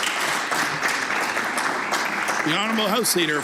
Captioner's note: some Applause